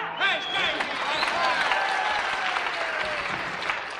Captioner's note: cheers and applause